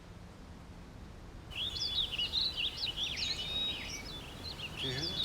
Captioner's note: birds chirp